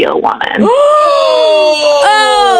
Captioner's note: 驚呼